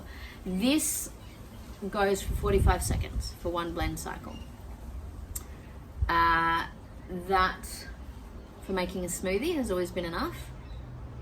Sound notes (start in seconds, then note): none